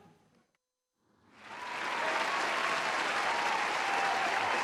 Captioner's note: applause